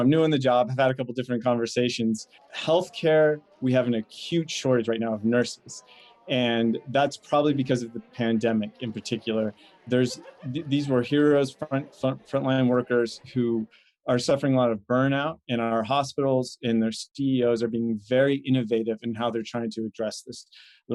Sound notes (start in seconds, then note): 3.1 people chattering; 10.0 lady laughing